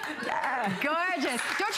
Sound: applause

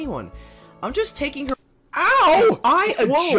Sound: slap

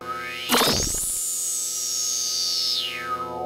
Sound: sound effects

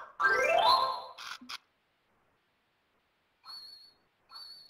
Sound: ringing

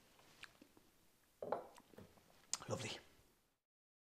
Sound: glass clinks

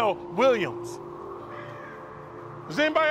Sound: bird caws

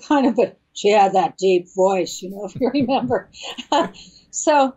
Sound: laughs

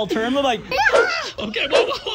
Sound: person screams

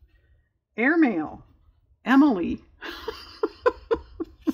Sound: laughs

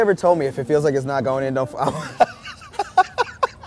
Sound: laughs

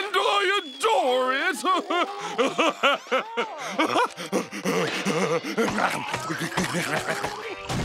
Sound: laughing

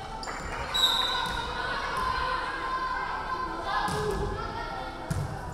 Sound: referee whistling

